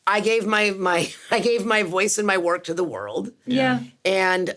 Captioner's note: chuckles